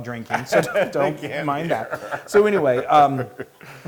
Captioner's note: laugh